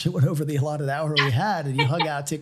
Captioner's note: laughs